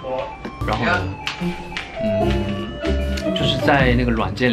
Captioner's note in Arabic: جرس الباب